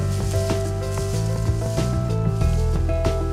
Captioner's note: shuffling